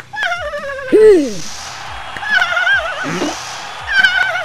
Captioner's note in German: Grunzen inflating